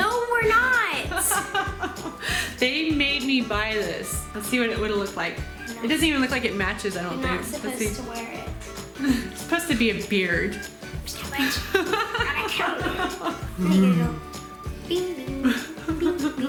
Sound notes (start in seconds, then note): 1.1 laughs; 11.4 laughter